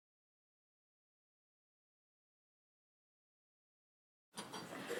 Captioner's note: silence